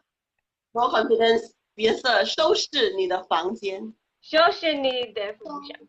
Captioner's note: speaking foreign language